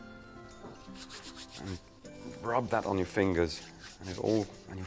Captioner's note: hands rustling